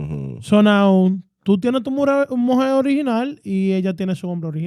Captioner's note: speaking In Foreign Language